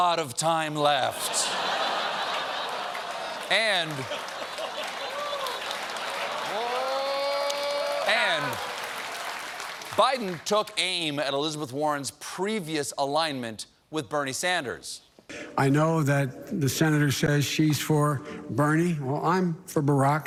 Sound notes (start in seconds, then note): 1.1 laughter; 7.2 applause